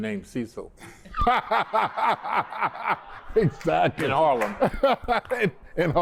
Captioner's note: laughter